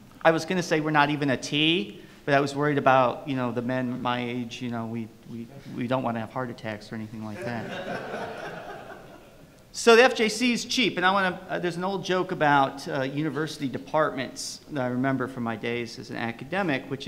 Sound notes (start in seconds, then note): 7.4 audience laughs